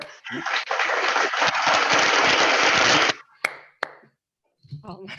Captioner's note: applause